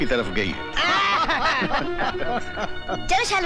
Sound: laughs

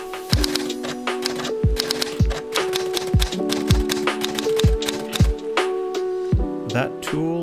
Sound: typewriter sounds

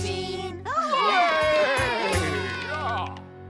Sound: cheers and Applause

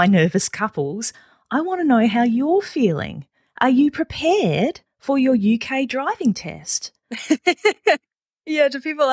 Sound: laughs

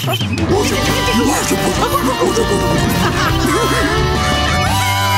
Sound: playing and laughing

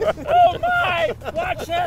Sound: laughs; shouts

